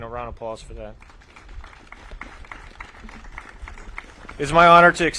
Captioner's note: audience claps